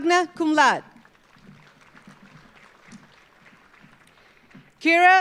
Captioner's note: audience applauding